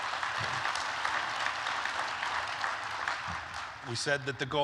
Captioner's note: applause